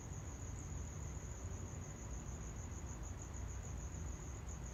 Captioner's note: insects chirping